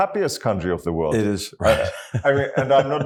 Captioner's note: laugh